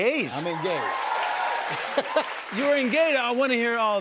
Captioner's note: cheers and applause